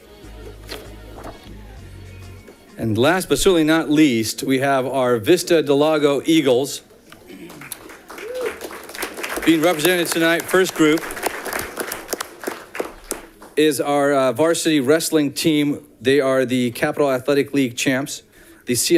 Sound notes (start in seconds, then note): 7.2 audience clapping